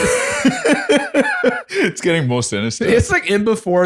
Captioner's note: laughter